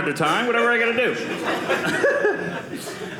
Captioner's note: audience laughing